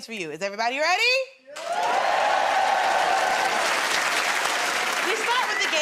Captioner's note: cheers and applause